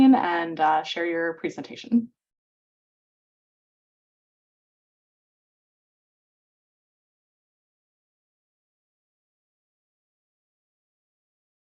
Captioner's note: audio pauses